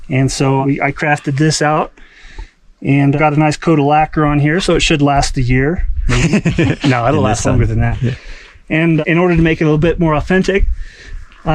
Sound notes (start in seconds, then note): 6.0 laughs